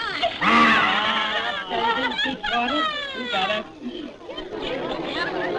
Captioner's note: laughter